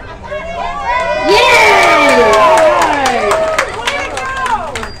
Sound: applause

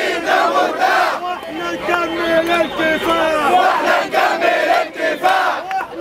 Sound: chants

